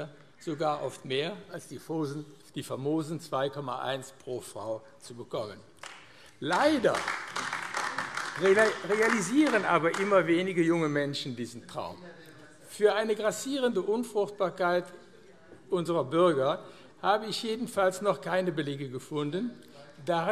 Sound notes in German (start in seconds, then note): 5.8 Beifall AfD